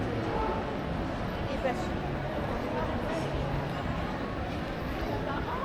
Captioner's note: people chattering